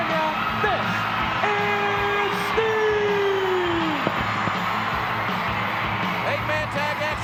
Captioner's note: crowd cheering